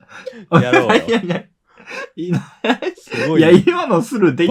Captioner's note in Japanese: 笑い; 鼻息